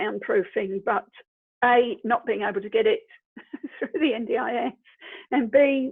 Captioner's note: laughs